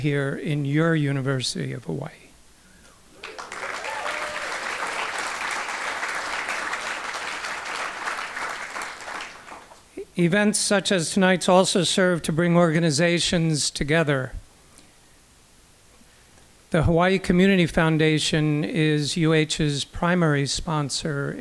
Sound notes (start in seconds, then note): 3.2 applause